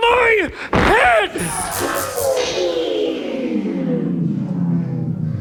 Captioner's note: electricity powers down